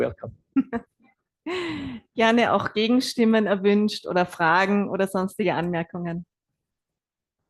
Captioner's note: German live translation